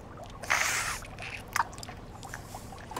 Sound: slurping sound

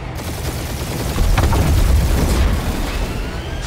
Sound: gun firing

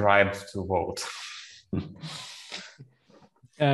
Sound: laughs

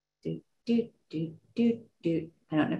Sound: humming

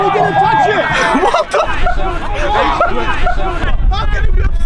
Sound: laughs

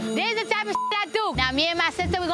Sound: beep

